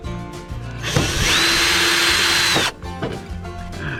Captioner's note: drill noises